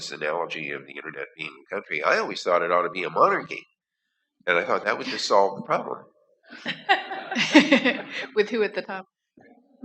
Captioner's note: laughter